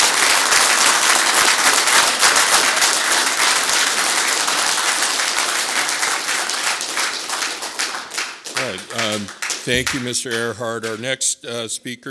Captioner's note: applause